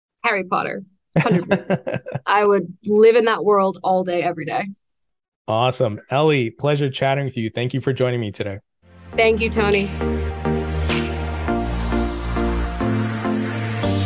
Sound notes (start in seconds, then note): 1.1 laughs; 1.1 laughing drowns out speaker